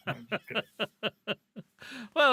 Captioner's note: laughter